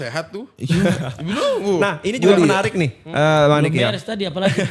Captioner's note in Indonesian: tertawa